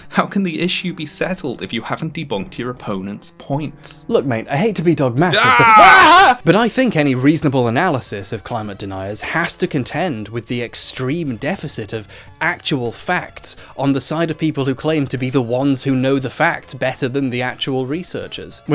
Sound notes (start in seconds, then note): 5.3 both scream in shock